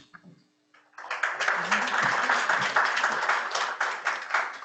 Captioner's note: audience clapping